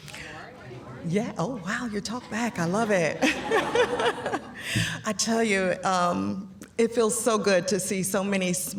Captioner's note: laughter